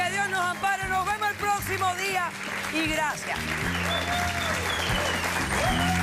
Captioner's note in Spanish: aplausos